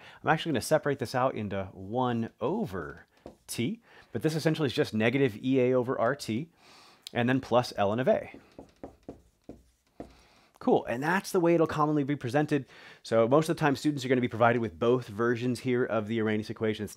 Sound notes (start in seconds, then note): 8.2 marker tapping board